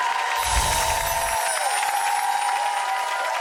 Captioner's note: chimes; audience claps